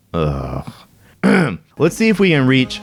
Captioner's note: groan